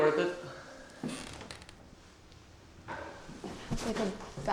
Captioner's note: step creaks